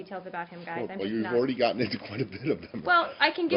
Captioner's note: laughter